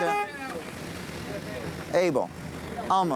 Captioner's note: horn honks